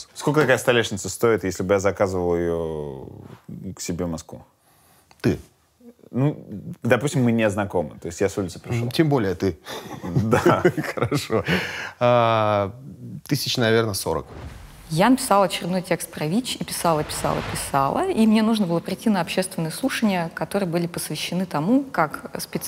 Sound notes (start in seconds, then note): 9.7 both laugh